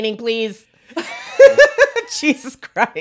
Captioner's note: laughs